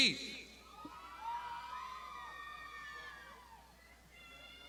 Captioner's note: crowd shouting